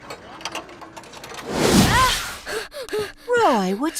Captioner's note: panting